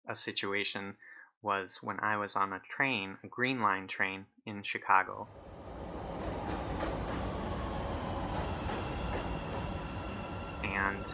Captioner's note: train sounds